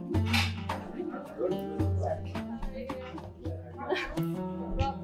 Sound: patrons chatting

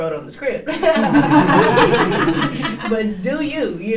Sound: all laughing

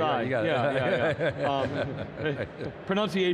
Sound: chuckles

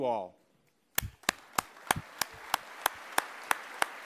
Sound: applause

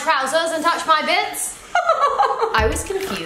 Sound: laughs

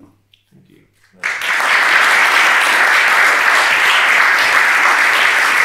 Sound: attendees applauding

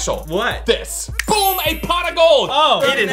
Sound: snaps

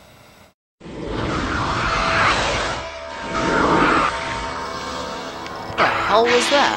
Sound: roaring

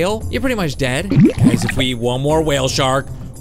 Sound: bubbles gurgling

